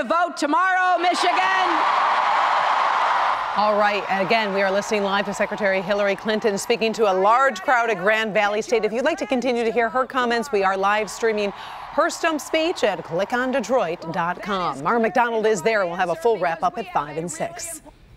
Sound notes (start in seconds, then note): 7.1 cheering